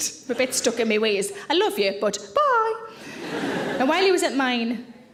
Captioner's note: audience laughing